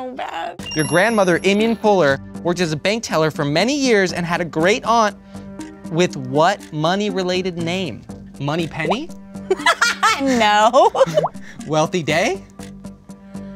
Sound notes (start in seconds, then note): 9.5 laughs